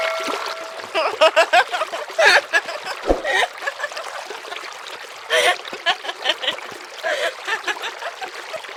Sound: sound laughter

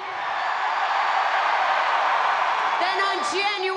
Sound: spectators cheering

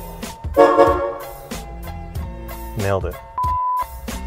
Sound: car horn honks

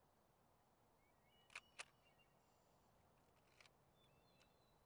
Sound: shutter clicks

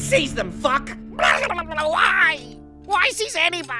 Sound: gargling

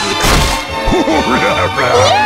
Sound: laugh

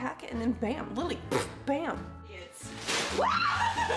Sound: blowing raspberry; screaming and laughing

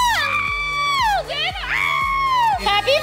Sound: screams

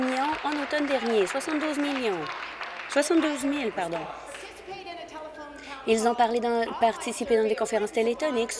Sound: applause

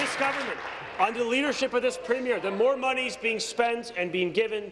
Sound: applause

